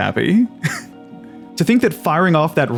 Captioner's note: laughs